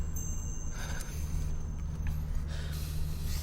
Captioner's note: sighs